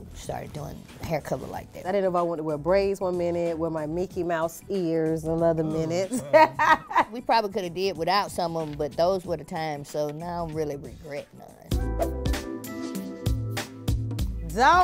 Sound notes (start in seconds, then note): 6.0 laughing; 11.9 smooth R&B music